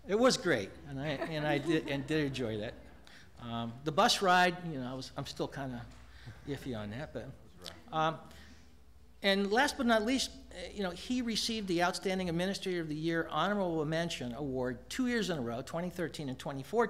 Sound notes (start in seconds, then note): 1.0 laughter